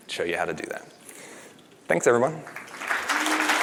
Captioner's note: applause